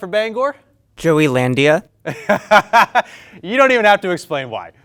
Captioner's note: laughs